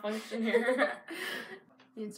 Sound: both laugh

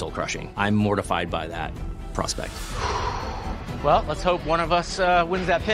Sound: sighs

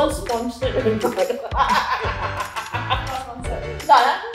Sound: laughs

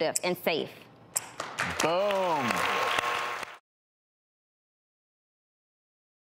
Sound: clapping

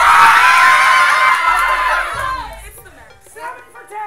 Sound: cheering

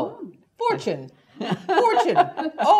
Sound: laugh

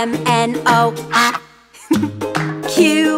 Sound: duck quacks

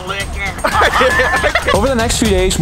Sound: both laugh

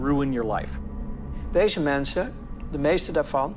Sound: speaking German

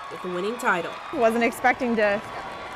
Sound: nats of applause

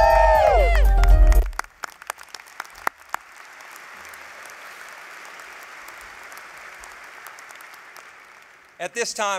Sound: applause

